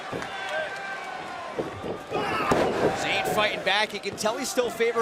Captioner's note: crowd cheering